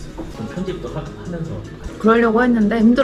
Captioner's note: walking